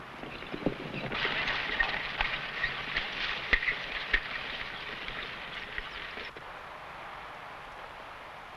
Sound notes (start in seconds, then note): 0.0 horse hooves pattering